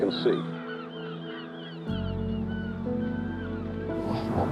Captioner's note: gulls crying